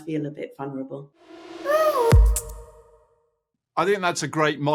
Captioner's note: logo swishing in